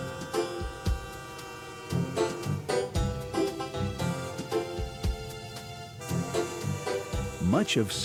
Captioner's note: western-themed orchestra music; train whistle blowing; voiceover